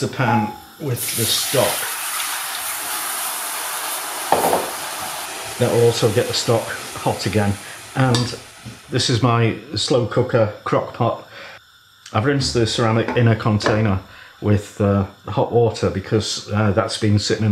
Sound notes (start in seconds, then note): 1.9 sizzlin